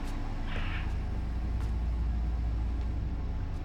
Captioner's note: bird squawks